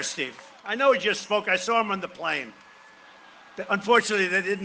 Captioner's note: cheering and applause